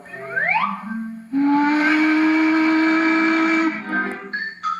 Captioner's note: whistle Blows